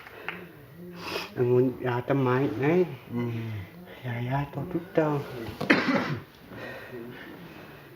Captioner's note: applause